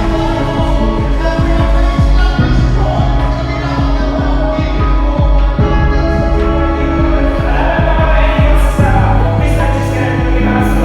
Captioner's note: commentators wildly commentating